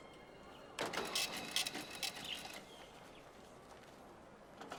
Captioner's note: register clattering